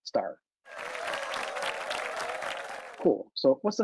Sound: applause

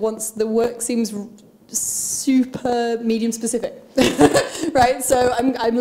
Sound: laughs

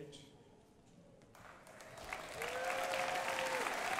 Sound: crowd applauding

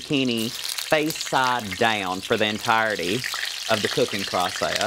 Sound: sizzling

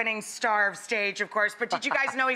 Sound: laughs

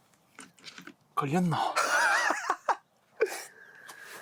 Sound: laughing out loud

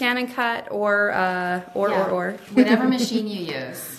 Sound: laughs

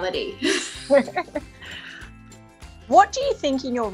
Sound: both laughing

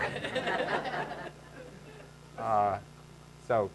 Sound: laughing

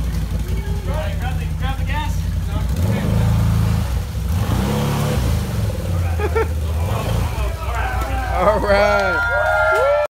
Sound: engine rev; wooooh

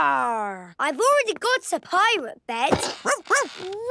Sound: barking

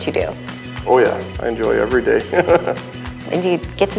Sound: snickers

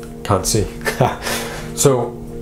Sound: laughs loudly

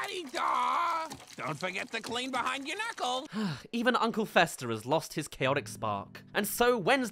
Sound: sigh

